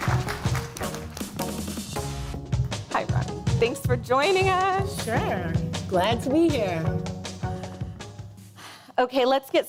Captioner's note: applause